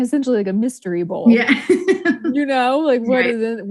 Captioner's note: laughs